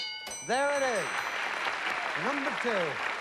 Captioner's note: applause